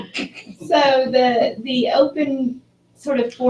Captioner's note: laugh